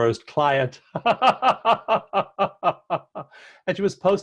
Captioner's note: chuckle